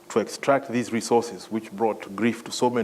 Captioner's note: none